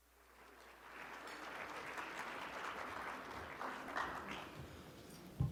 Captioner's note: audience clapping